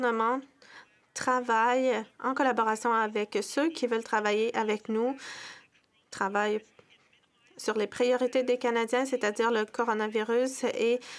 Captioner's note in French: voix de l'interprète